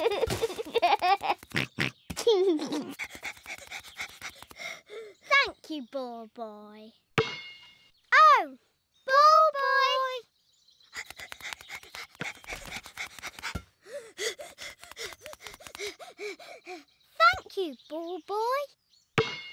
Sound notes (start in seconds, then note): 2.4 panting; 10.9 panting; 13.8 panting heavily